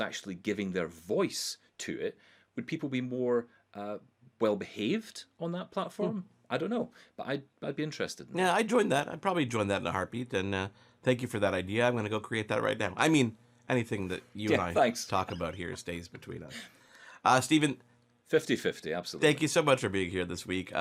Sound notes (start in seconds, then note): 15.1 laughing